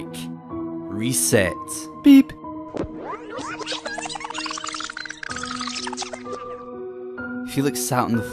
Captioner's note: beep and Rewinding sounds